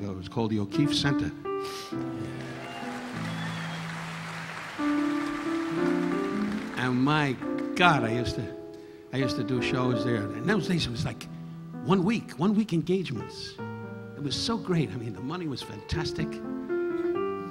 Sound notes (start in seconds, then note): 1.9 audience applauding; 2.0 audience cheering